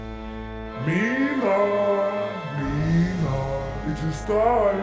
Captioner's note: malevolent voice